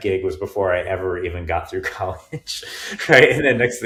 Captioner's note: chuckling